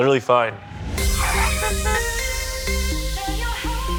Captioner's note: upbeat rhythmic music; car screeching and honking